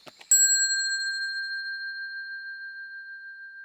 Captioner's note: bell dings